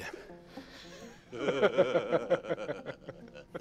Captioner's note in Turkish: Gülme sesi